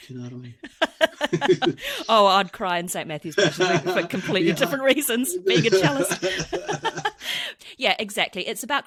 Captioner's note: laughs